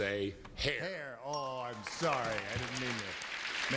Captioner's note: bell dings